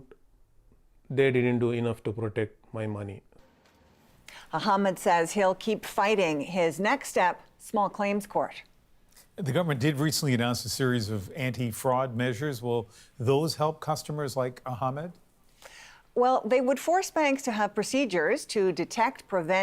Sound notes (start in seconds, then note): none